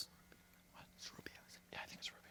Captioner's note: whispers